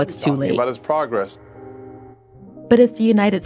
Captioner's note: soundbite of archived recording